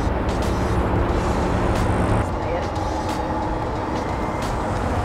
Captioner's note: distant traffic passing